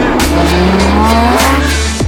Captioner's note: engine roaring